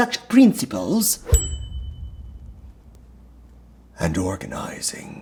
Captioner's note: bell dinging